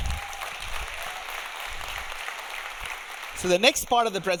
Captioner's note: audience applauding; audience cheering